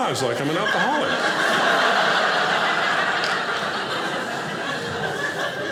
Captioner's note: audience laughing